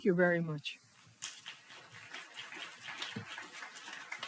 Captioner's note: applause